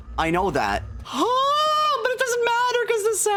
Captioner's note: high-pitched sigh